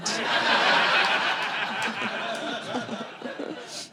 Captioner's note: audience laughing